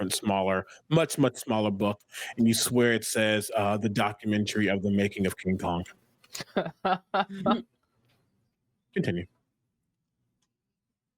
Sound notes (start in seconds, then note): 6.4 players laughing